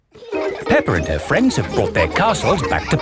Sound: children laughing

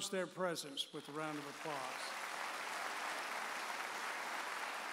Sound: audience applauds

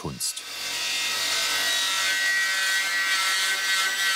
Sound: loud sawing noise

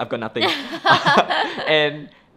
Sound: both laugh

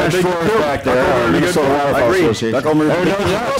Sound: laughter, Cross talk

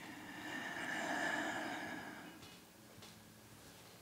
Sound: sighs

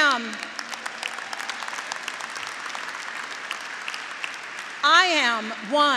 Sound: graduates applauding

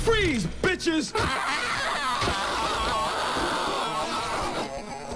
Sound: distorted yelling

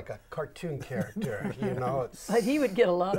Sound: laughing

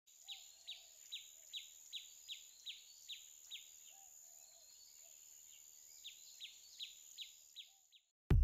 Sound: nature noise

